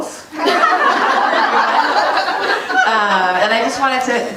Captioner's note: audience laughing